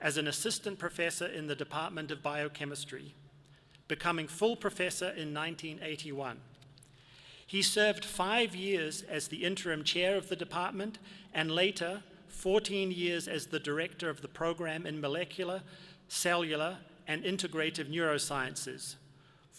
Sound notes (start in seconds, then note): none